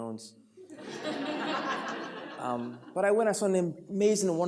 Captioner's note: audience laughs